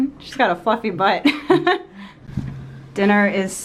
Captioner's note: laughs